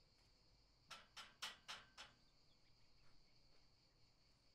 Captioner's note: knocking